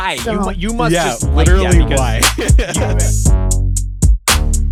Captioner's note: laughs; upbeat music